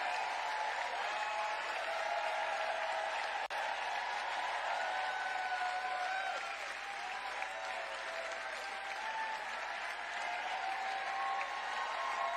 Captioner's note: cheering